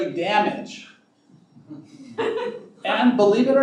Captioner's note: laughing